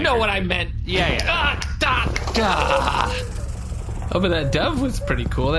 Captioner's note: snapping fruitlessly, a dove flies